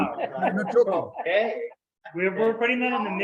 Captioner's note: members laugh